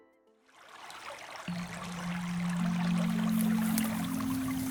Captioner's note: water rippling